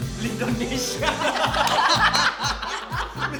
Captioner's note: everyone laughs